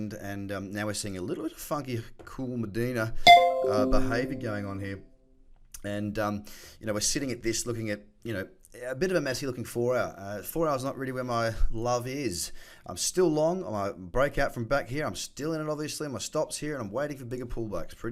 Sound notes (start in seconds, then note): 3.2 notification pings